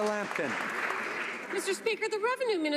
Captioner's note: some Applause